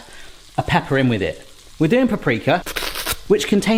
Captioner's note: mimics Hannibal Lecter hiss